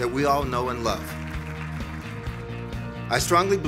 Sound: audience applauds

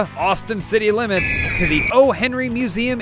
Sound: fire and Screaming

